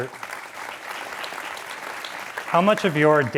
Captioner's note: audience applauds